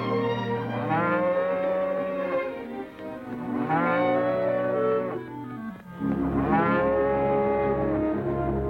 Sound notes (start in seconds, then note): 0.8 cows mooing